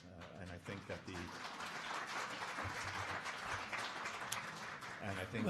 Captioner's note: audience applauding